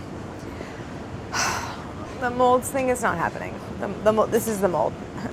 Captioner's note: sighs